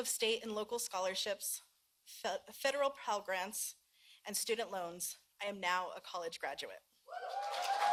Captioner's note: applause